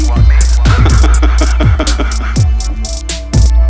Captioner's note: man laughs